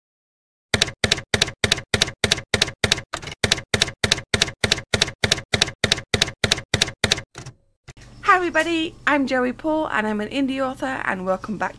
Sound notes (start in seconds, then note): 0.7 typewriter keys clacking